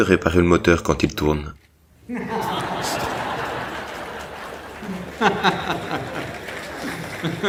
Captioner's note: laughs